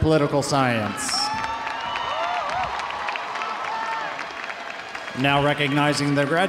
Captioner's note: audience cheering; audience applauding